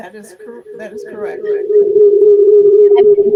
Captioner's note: microphone noise